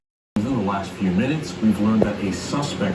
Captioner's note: on TV